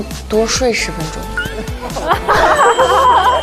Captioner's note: bursts into laughter